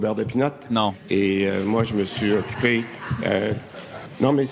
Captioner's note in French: rires